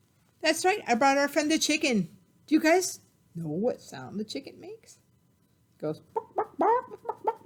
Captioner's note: clucking